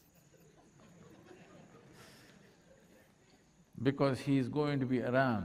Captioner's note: laughter